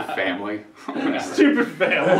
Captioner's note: laughter